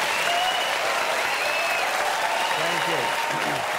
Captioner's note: audience applauding